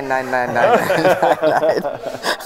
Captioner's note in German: Gelächter